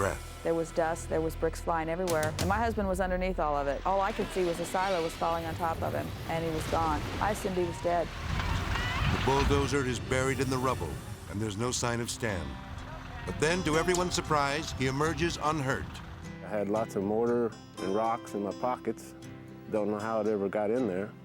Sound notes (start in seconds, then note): 8.6 bulldozer humming; 8.6 yelling